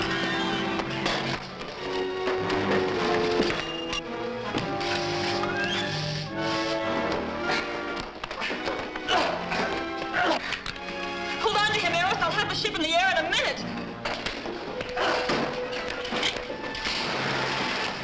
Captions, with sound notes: (grunting) - Hold on to him, Eros, I'll have the ship in the air in a minute! (crackling and clattering)